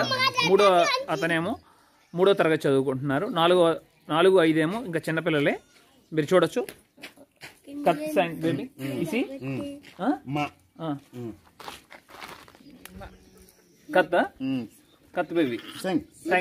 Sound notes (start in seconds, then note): 6.9 speaking in Foreign language